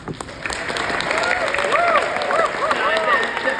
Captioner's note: audience cheers